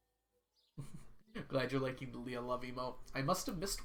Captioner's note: chuckles